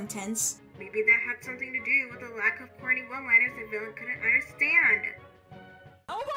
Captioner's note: telephone filter